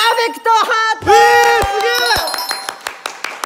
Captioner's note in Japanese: 拍手